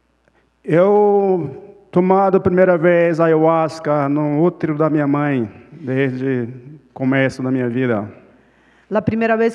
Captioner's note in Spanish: Ponente habla en portugués